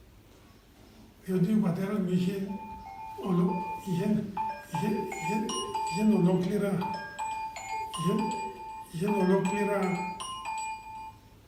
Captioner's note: phone ringing